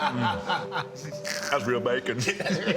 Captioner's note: laughing